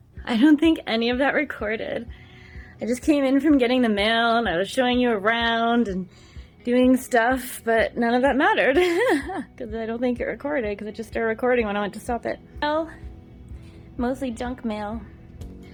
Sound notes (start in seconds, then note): 8.7 giggles